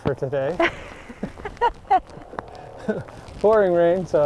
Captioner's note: laughing